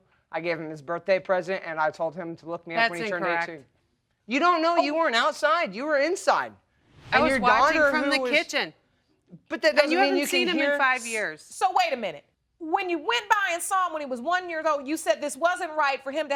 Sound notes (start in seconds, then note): none